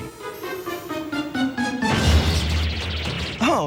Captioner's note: crashing